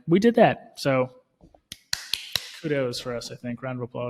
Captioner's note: hands clapping